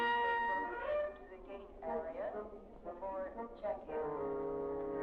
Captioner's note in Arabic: إعلانات المطار